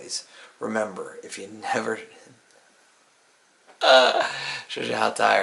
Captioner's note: groans